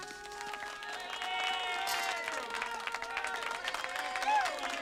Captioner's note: applause